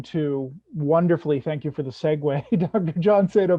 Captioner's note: chuckles